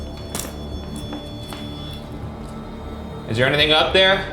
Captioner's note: popcorn crunching